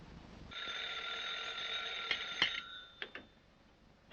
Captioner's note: phone rings